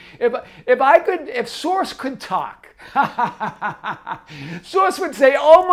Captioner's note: laughs